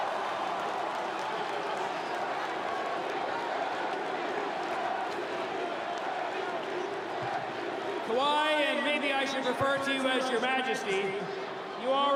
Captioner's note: cheering; applause